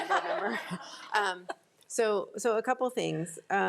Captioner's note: crowd laughing